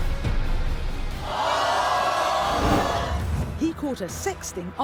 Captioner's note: audience gasping